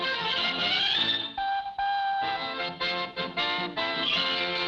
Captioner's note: lighthearted music; horn tooting